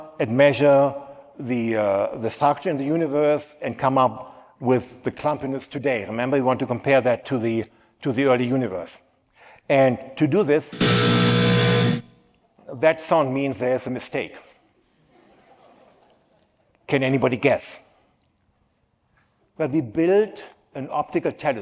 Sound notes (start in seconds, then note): 10.7 static noise